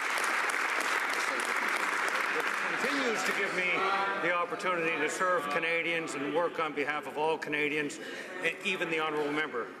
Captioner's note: some Applause